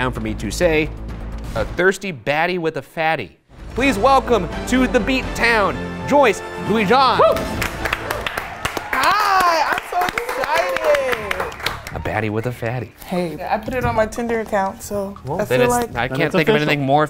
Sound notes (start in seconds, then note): 6.7 audience cheering; 10.7 audience applauding